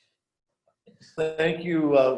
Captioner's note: laughs